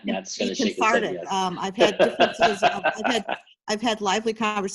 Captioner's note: laughs